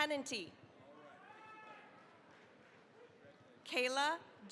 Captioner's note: cheering, applause